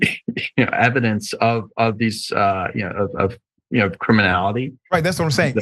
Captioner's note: laugh